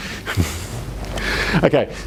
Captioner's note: chuckles